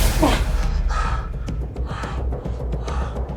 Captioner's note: sighs deeply